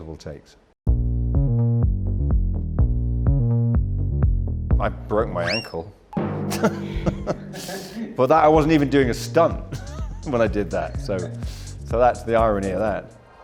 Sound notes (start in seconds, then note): 0.3 upbeat music; 6.5 laughing